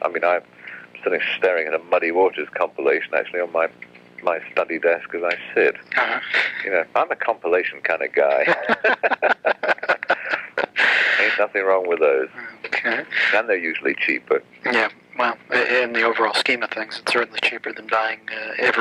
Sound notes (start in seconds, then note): 8.3 laughs